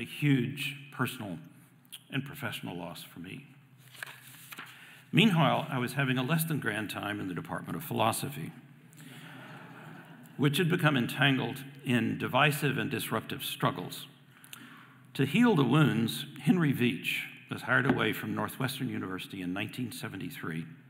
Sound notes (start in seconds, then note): 9.4 audience laughing